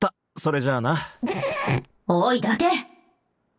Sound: snickers

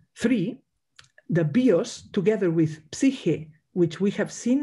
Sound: speaks in Greek

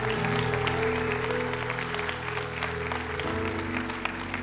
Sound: applause

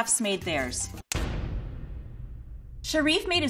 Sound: pounding

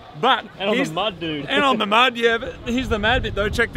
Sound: chuckles

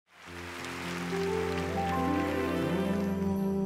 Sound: audience applauding

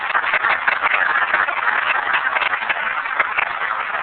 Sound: applause

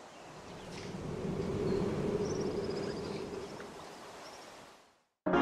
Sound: water splashing; wind blowing

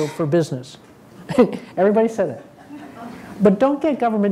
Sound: laughing

